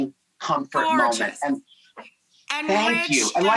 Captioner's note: gasps